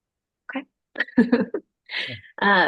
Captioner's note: laughs